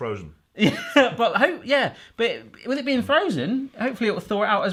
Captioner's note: laughs